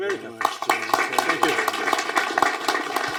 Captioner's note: applause